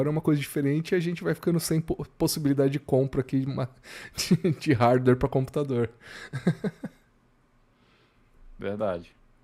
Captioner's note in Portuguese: risadas